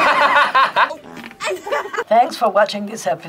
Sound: laughs; people laughing; man farts

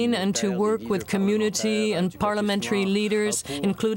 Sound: speaking French

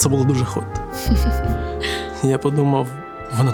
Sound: backstage woman's laughing

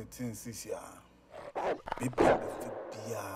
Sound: dog barks

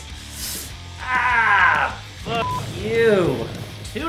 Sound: pain noises

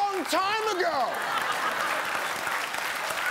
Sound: audience applauding

